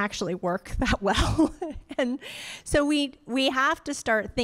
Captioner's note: laughter